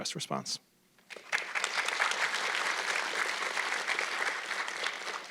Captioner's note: audience clapping